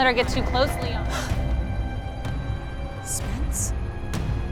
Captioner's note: Rachel gasps